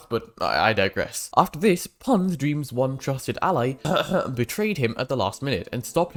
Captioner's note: ahem